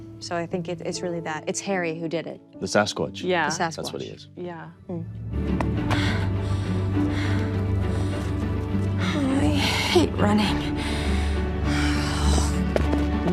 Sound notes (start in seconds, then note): 5.7 Poppy breathing heavily